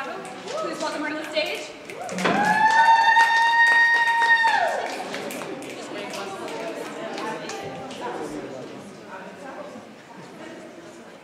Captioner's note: audience applauds